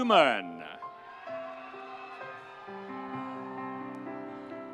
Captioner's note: audience cheering